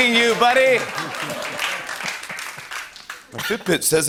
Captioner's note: laughter and applause